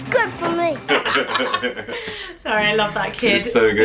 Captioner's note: laughing